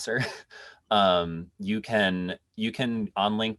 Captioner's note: laughs